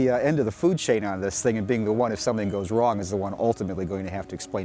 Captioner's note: none